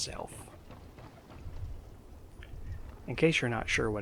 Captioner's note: rhythmic thumping